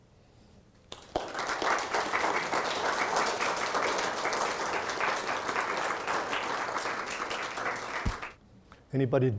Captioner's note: audience applauding